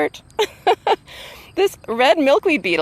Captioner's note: laughing